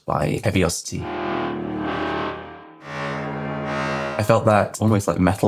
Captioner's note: metallic swells